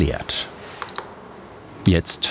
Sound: beeping

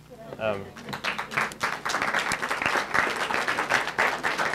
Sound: audience clapping

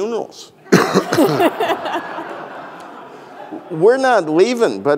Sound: audience laughing

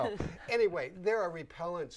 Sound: laughing

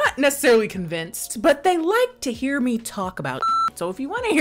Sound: beep

